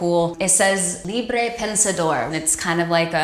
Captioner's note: speaks in a foreign language